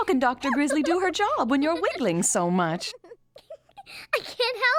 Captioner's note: giggling